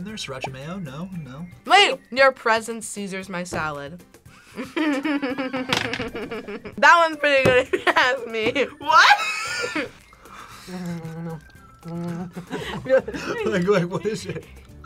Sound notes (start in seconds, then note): 4.4 laughs